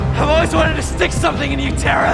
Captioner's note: screams